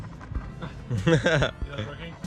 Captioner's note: laughs